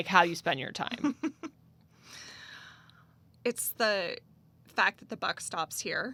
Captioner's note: laughs